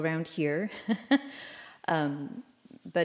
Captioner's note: laughter